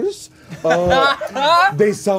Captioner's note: laughing